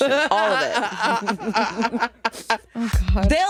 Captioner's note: all laughing